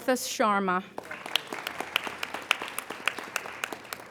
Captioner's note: applauding